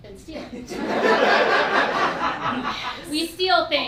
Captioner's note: laughing